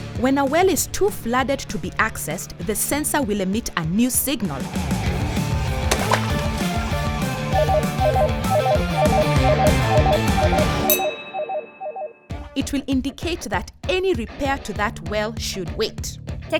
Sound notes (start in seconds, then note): 5.6 splashing; 7.5 beeping